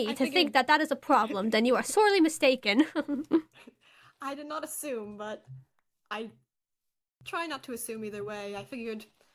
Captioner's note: giggles